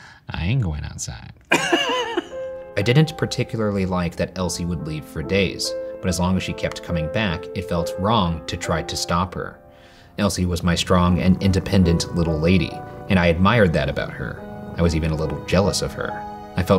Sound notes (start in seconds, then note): 1.5 laughing; 1.5 laughs